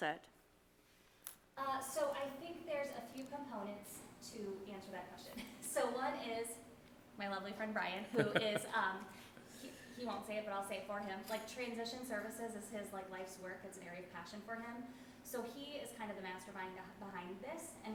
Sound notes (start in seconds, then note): 8.1 laughing